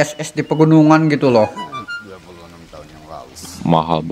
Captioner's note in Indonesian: batuk